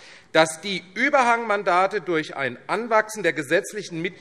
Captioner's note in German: none